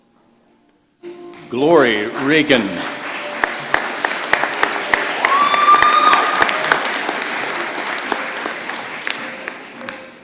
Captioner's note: applause